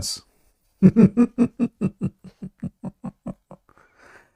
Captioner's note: Ketawa